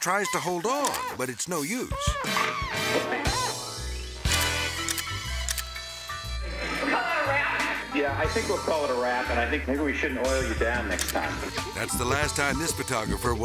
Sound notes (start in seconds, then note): 0.0 slippery metal squeaking; 1.9 whimsical jazz music; 4.2 camera clicking